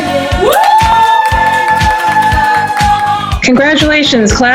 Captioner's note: cheering